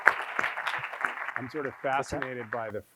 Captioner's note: audience applauding